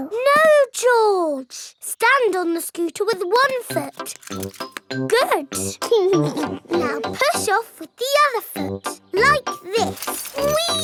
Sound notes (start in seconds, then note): 6.1 chuckles